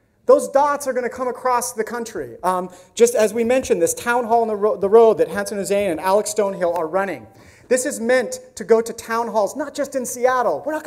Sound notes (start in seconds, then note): none